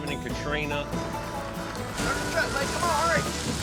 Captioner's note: rain pouring